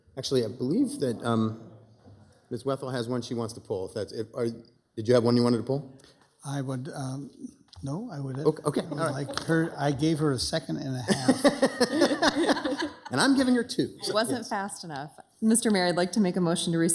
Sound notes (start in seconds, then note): 10.8 laugh